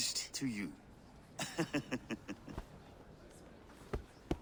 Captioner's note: laughs